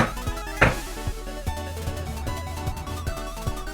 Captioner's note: skateboard sounds intensify